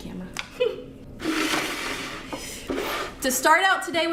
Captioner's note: bucket scrapes table